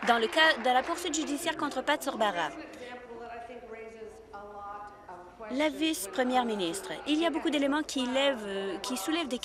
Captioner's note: applause